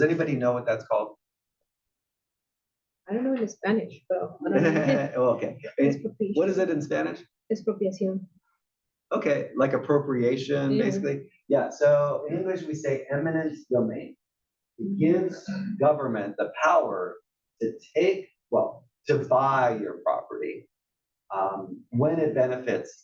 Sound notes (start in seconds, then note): 4.4 laugh